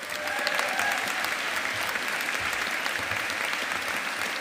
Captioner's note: audience applauding